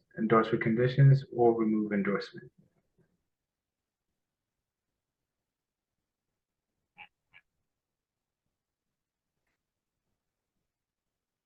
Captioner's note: pause